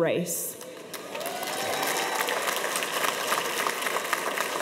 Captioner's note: audience applauds